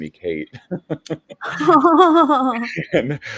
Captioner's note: both laughing